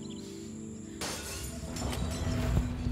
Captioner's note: Glass shattering